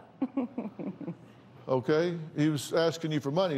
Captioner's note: laughs